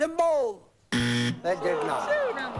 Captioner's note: buzzer